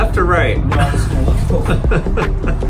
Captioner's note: laughing; laughs